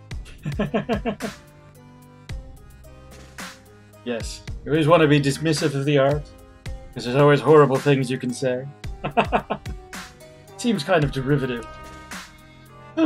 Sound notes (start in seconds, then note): 0.3 laughs; 9.0 laughs